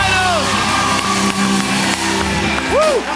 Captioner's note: cheers and applause